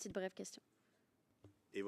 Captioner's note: speaking French